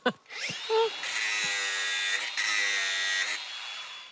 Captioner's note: both chuckle; tool whirrs